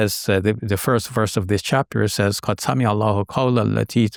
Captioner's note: speaking Arabic